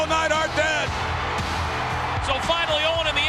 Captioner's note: spectators cheering